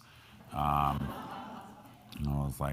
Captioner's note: crowd laughing